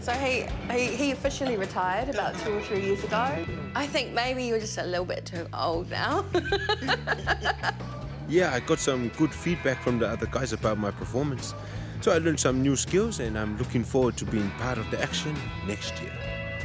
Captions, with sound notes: So he officially retired about 2 or 3 years ago. I think maybe you're just a little bit too old now. [laughter] Yeah, I got some good feedback from the other guys about my performance. So I learned some new skills, and I'm looking forward to being part of the action next year.